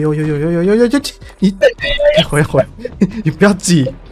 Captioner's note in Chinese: 哈哈